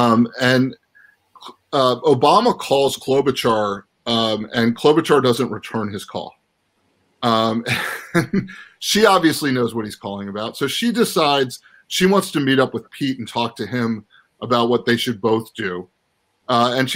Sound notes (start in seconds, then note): 7.6 laughs